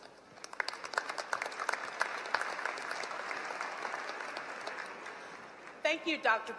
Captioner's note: applause